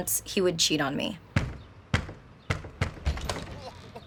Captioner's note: knocking on door